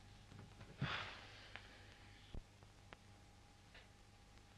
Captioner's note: Philip sighs